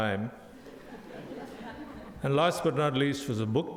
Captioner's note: audience laughs